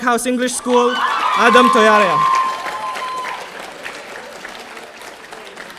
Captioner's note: audience cheering